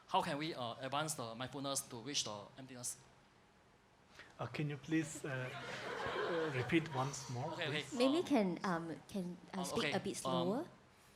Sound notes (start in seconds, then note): 5.4 audience chuckles